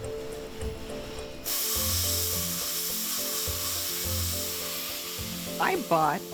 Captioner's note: plasma torch hissing